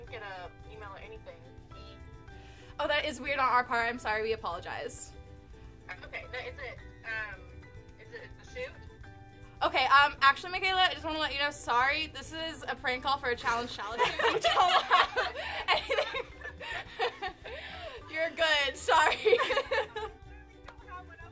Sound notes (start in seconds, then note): 7.0 stammering; 14.0 laughing